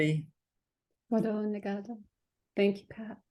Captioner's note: native language spoken; native language spoken